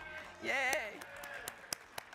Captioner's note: applauding; crowd applauding